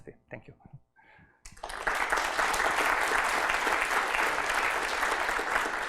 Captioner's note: applause